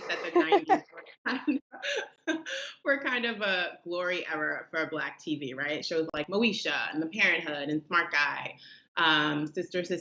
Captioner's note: chuckling